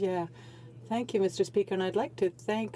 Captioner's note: speaking French